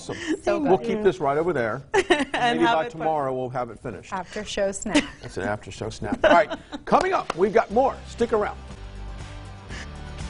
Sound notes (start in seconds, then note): 0.1 laughs; 6.2 laughs